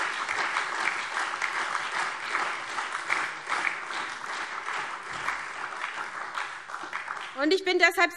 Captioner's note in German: Beifall SPD, Freie Demokraten und DIE LINKE